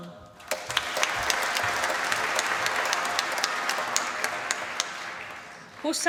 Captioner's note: applause